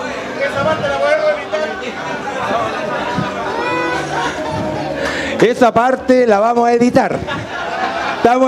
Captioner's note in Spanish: Risas